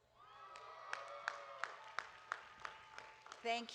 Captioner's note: audience applauding